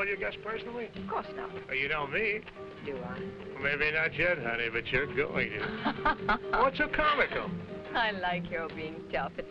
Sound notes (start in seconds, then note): 5.6 Raina laughing